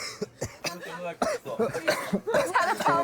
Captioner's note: coughs